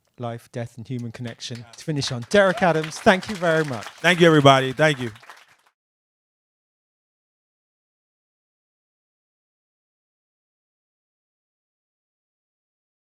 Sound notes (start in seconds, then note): 2.7 audience applauding